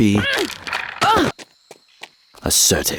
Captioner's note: woman grunts